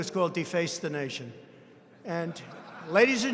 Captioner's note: laughter